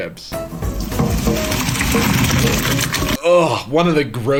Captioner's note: chips sloshing into colander